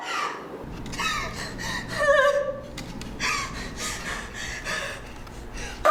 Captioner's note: sobbing